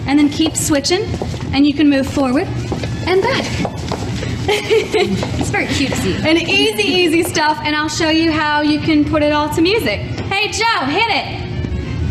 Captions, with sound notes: and then keep switching and you can move forward and back. (laughs) It's very cutesie. And easy, easy stuff and I'll show you how you can put it all to music. Hey Joe, hit it!